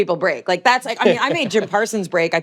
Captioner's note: laughs